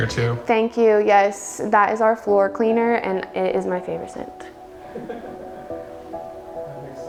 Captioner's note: laughs